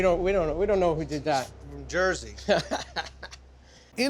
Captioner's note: laughs